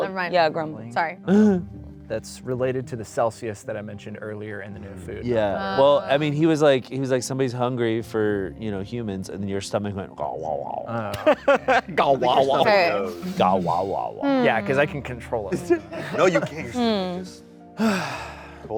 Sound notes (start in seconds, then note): 10.6 grumbles; 12.2 grumbles